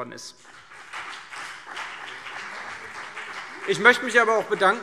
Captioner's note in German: Beifall CDU und BÜNDNIS 90/DIE GRÜNEN